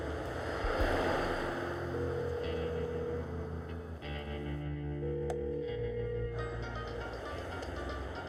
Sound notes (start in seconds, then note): 1.4 phone ringing; 6.1 cell phone ringing